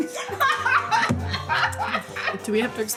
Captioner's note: laughing